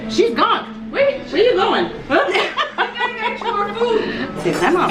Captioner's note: laughs